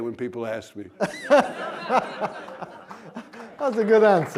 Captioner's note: laughter